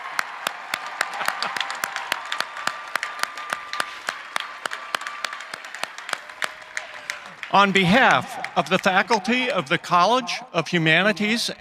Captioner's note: cheering and applause